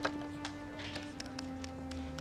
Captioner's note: dialing